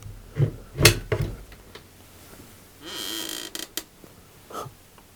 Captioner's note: cabinet door hinges squeaking